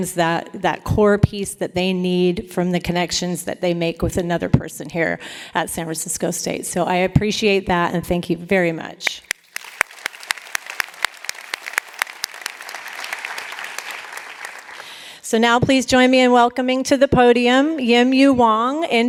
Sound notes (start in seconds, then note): 9.2 applause